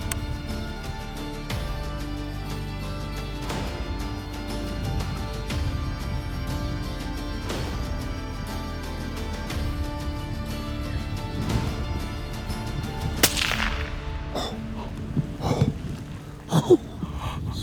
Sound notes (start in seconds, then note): 13.2 gun fires